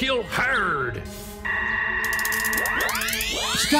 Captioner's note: phasers fire